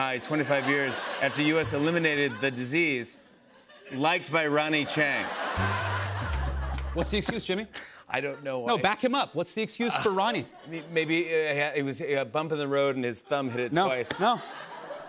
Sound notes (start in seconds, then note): 4.7 laughter